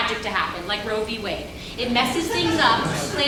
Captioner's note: audience laughs